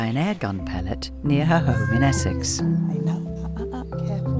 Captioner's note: Nutty meows